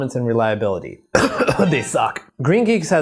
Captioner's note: coughs